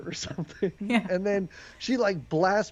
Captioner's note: laughs